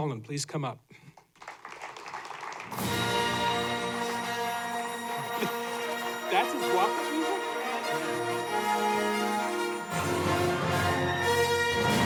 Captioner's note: applause